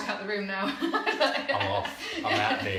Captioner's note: laughter